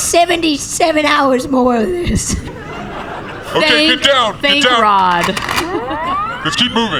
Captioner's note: racking rifle